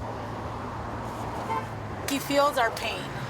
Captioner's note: traffic rumbling and honking